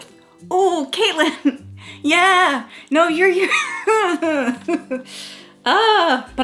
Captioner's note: laughing